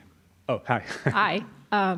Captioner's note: laugh